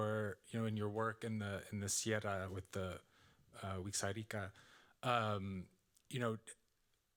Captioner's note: audience member speaking Spanish